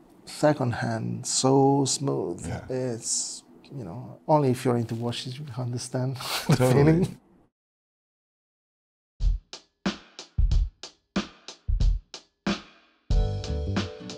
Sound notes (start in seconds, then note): 6.2 laughs; 9.1 upbeat music